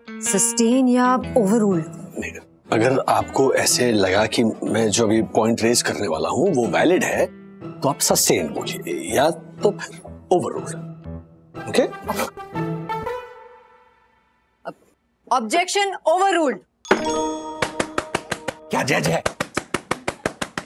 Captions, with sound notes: Sustain or Overruled? If you think that the point I'm going to raise is valid, then you say sustain. Or else overruled. - Okay? - Okay. Objection overruled. [claps] What a judge!